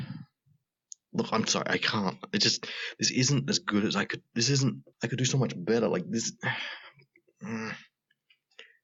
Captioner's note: groan